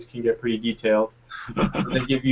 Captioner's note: laughing